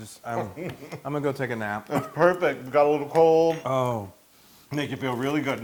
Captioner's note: laugh